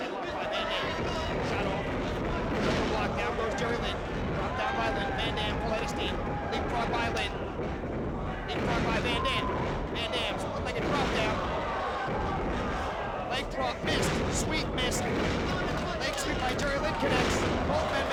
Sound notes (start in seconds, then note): 2.1 footsteps thumping; 2.8 mat thumping; 11.7 crowd gasping; 14.1 mat thumping